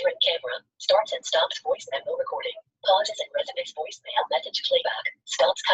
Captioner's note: system voice